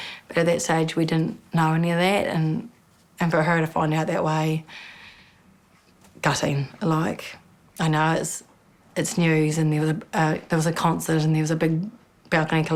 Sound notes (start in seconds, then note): none